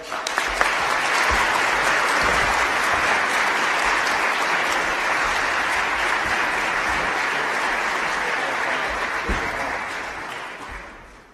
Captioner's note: applause